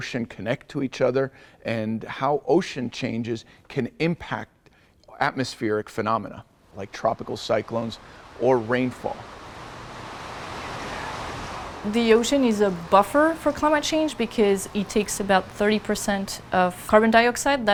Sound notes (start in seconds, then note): 9.6 strong winds blowing